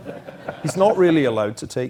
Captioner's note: laugh